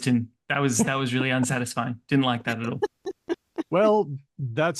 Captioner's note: laughing